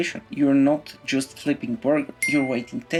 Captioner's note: ding sound effect